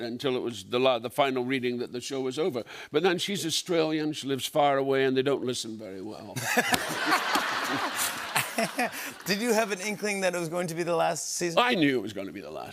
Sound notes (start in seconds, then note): 6.4 laughter